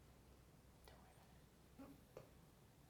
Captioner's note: whispers